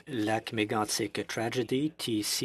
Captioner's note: speaking French